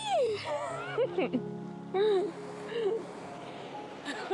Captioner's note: laughs